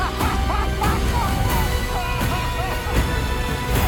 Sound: maniacal laugh

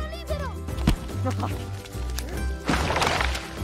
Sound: laughs

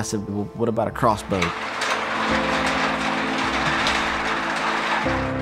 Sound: door opening

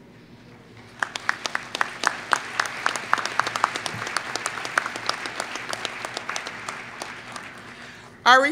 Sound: applause

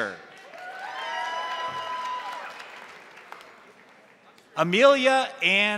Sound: crowd applauding; crowd cheering

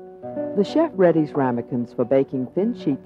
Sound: voiceover

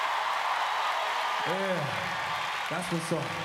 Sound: applause

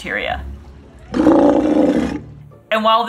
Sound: sea lion roars

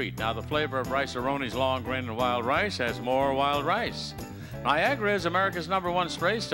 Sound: none

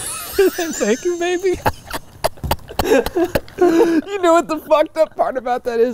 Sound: laughs

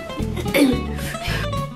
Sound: coughs

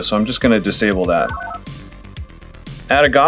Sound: analog beeps

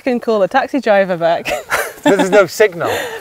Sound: laughing

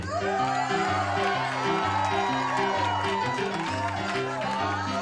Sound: crowd cheers

